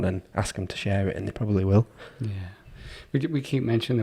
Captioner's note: none